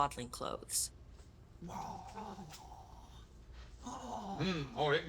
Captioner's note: devouring noises